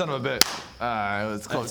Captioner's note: smack